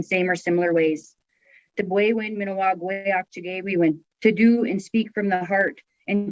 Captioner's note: speaking Native language